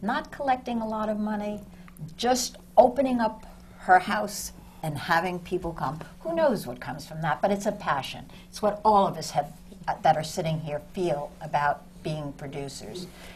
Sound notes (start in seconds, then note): none